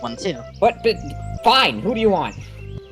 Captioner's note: stutters